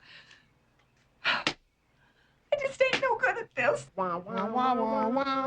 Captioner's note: crying